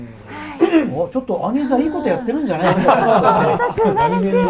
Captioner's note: laughs